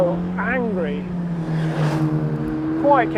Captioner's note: car engine revving